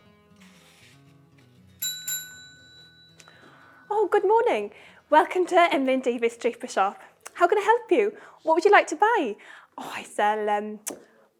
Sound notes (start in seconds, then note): 1.8 bell rings